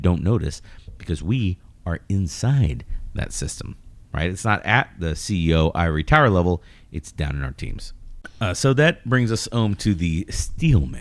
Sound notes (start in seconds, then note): 8.2 uh